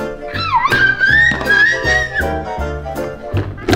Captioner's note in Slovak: detské zvuky